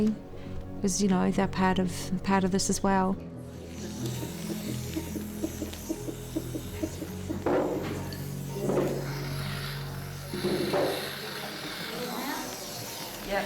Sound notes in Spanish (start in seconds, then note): 4.2 latidos de corazón